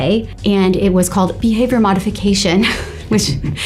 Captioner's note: laughs